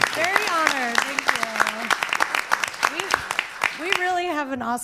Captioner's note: crowd applauds